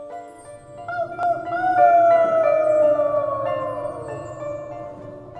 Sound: the sound of howling

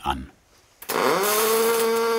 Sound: machine whirrs

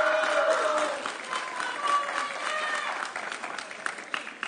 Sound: audience cheering

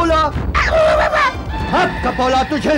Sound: grunts

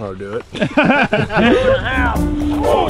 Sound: laughs

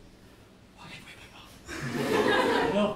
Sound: whispering

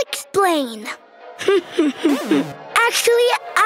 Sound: chuckles

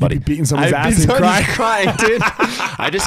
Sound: laughing

